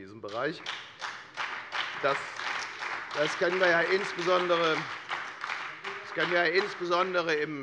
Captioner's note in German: Beifall bei der FDP und der SPD